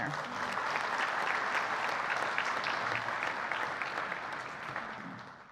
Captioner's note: audience applauding